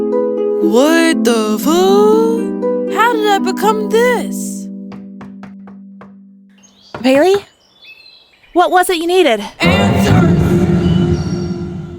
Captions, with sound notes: What the fuuu- How did I become this? (door knocking) Bailey. What was it you needed? (monstrous voice) Answers!